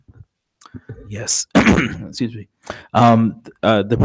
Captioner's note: clears throat